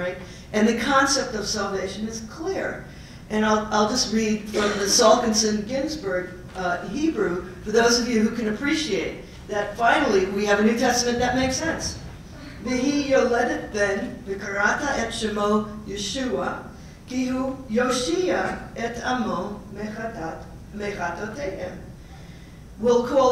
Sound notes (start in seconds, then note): 12.4 Hebrew